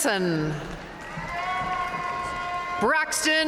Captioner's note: audience cheering and applauding